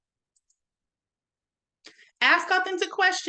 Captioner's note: mouse clicks